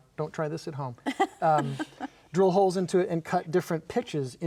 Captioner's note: laughing